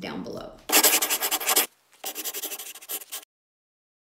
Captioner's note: scribbling